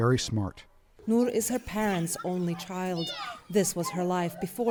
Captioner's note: voice-over